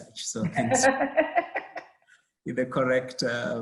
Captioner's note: laughs